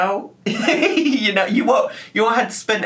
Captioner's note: laughing